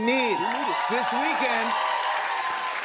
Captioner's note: cheers and applause